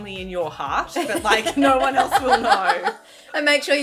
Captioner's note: laughing